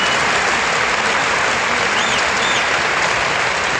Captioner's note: applause